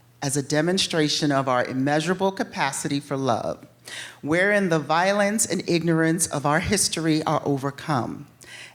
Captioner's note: none